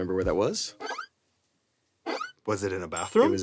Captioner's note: effect squeaks